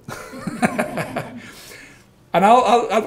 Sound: all laughing

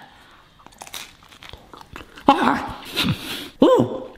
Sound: pizza crunching

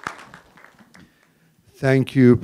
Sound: applause

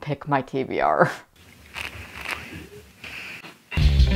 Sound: sipping drink

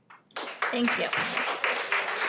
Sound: applauds

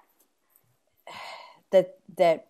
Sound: sighs

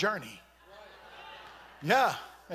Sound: congregation shouting

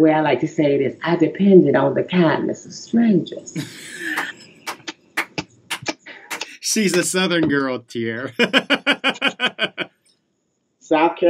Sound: laughter

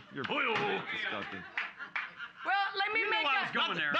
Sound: gavel knocks

